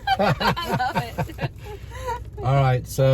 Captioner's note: laughs